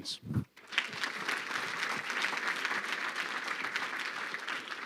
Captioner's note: crowd clapping